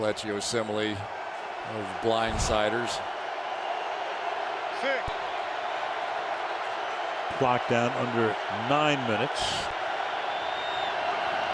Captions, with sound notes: There's Kelechi Osemele, with those blindsiders. [crowd cheering] Clock down under 9 minutes.